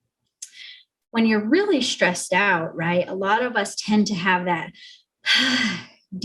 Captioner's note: sighs